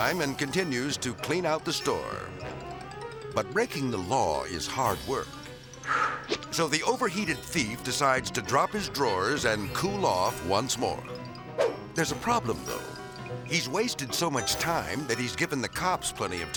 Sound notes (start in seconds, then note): 5.8 burglar exhales